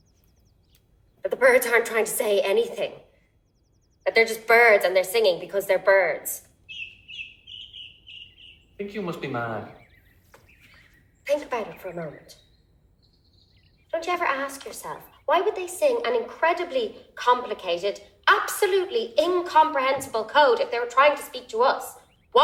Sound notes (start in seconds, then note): 6.9 chirping